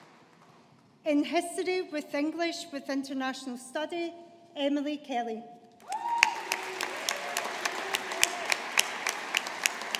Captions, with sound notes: In History with English with International Study, Emily Kelly. (AUDIENCE APPLAUDING)